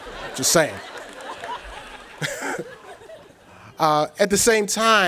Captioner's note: audience chuckles; chuckles